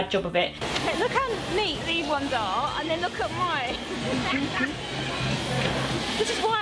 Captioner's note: laughs